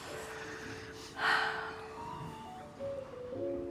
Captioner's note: sighing